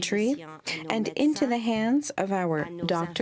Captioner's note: speaking french